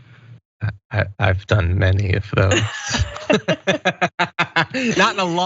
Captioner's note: laugh